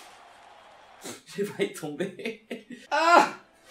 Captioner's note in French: rires